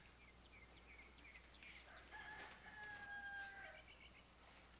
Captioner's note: rooster crowing